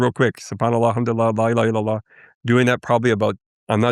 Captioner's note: speaking foreign language